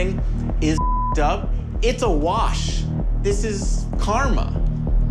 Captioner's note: beep